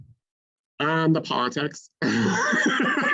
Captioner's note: laughs